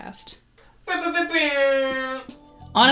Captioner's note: airhorn